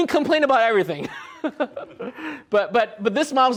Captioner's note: laughs